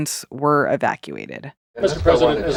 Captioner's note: soundbite of archived recording